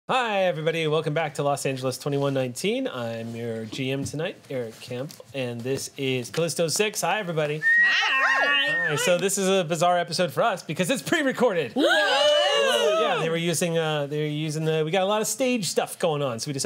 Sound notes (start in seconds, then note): 7.6 cheering; 12.1 fake gasps